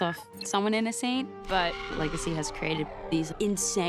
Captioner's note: shrieks